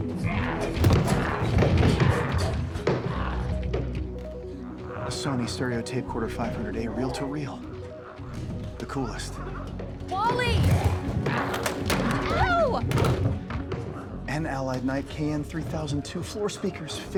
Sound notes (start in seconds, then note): 0.6 door rattling; 12.9 door rattling